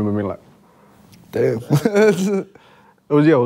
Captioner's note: laughing